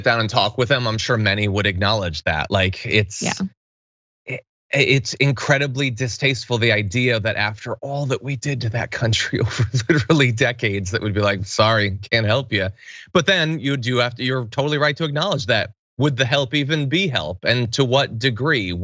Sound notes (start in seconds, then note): 9.0 laugh